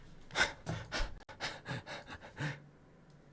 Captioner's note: panting